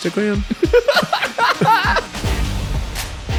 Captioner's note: laughing